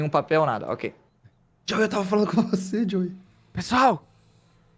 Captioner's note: whispering